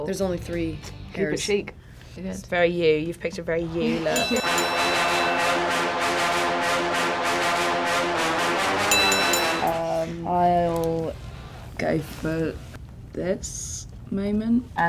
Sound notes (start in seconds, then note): 4.0 dramatic music; 4.1 bell rings; 8.7 bell rings